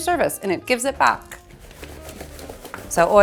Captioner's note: eggplants rustling